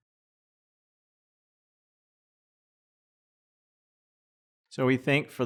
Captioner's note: silence